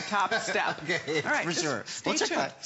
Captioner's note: laughter